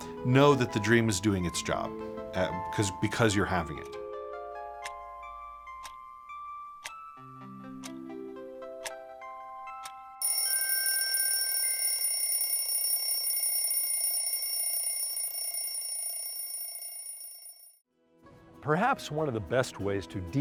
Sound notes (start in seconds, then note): 4.3 mellow music; 10.2 alarm clock ringing